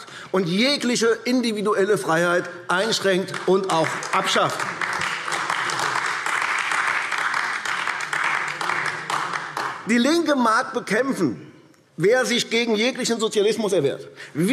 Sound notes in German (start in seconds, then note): 4.5 Beifall AfD